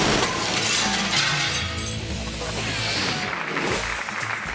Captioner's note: glass shattering; audience applauding